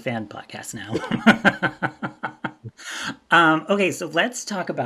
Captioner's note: both laugh